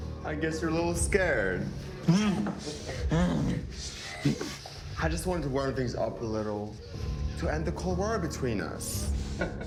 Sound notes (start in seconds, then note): 2.0 victims groaning; 9.5 dramatic music